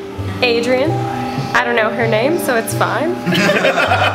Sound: general laughter

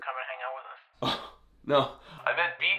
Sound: guffaws

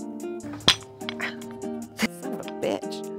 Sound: clank

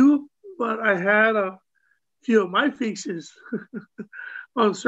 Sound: laughs

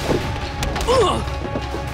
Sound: grunting

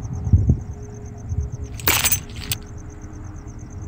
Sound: objectklatteren

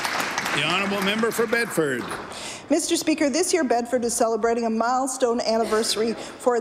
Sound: applause

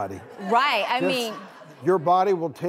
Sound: audience laughing

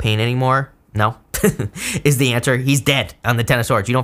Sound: laughs

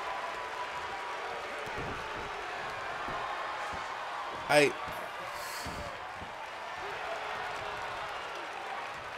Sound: applause

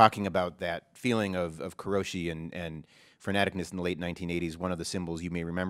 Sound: japanese

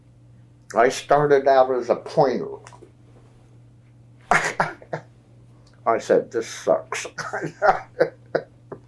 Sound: laughs

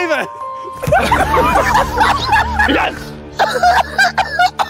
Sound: Sidemen laugh

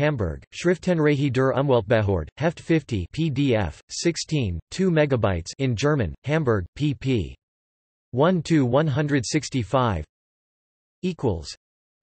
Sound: in German

